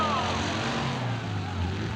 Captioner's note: engines revving